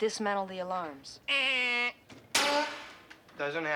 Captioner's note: mimics buzzer